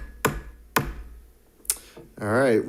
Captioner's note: gavel banging